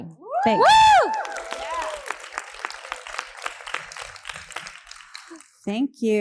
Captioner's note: all applauding and cheering